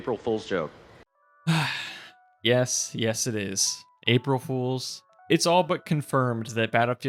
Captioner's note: sigh